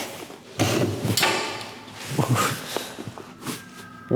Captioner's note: table bangs